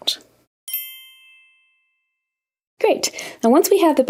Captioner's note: bells chiming